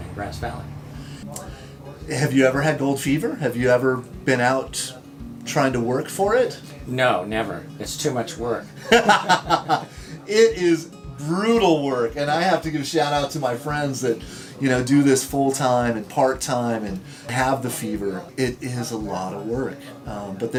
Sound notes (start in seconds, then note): 8.6 men laughing